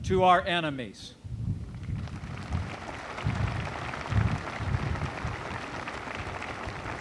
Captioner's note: applause